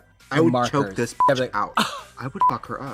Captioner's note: beep